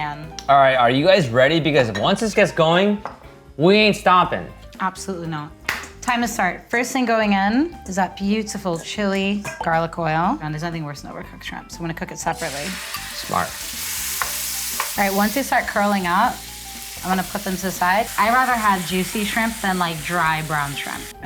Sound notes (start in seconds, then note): 14.1 pan frying